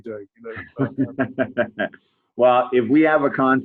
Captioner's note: laughs